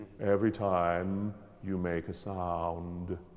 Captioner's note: none